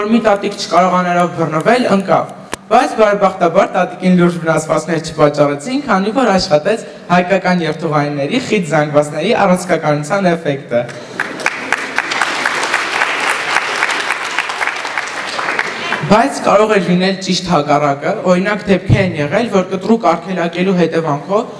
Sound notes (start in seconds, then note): 10.9 applause